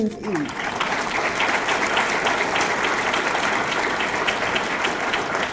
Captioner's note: audience clapping